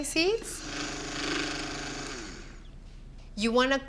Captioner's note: whirring